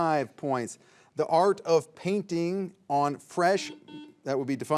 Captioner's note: signal beeps